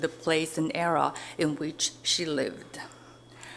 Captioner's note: none